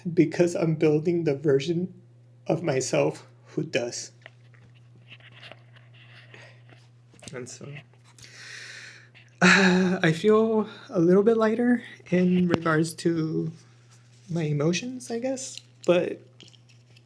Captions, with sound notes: because I'm building the version of myself who does and so [sighs and gasps] I feel a little bit lighter in regards to my emotions I guess but